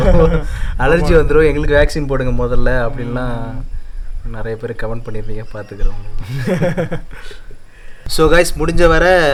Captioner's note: indistinct laughter